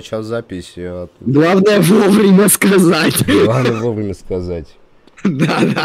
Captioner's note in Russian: хах